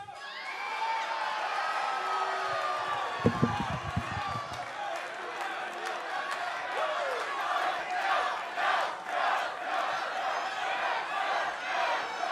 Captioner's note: crowd cheering